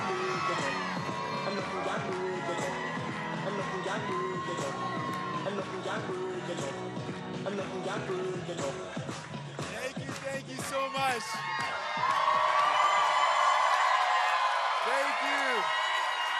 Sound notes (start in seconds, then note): 5.3 cheering and Applause